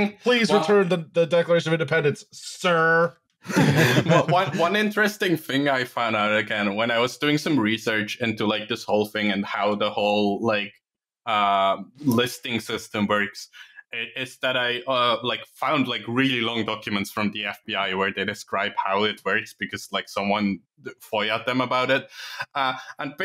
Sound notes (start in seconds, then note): 3.4 laughter